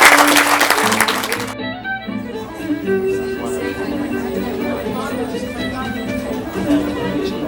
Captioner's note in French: applaudissements